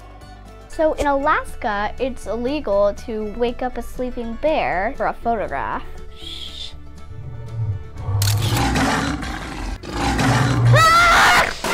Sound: growling; scream

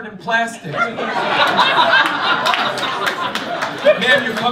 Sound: laughter

